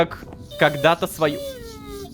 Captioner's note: robodog whines